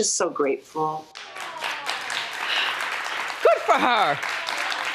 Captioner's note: audience applauds